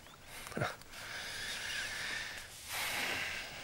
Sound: chuckles

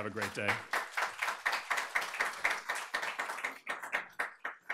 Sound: audience applauding

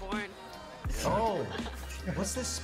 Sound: laughing

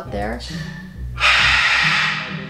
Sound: Rocky screams loudly

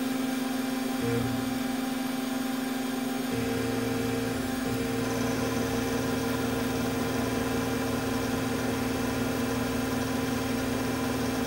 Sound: motor Whine

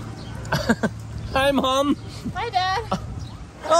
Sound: laughs

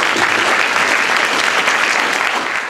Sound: applause

